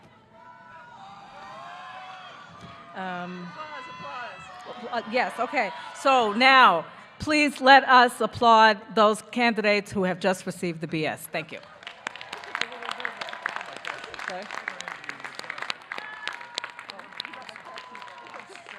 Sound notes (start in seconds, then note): 11.6 audience clapping